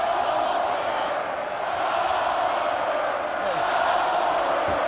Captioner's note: crowd chants "Goldberg"